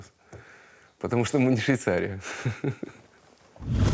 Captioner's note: laughs